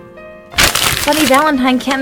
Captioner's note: paper crumpling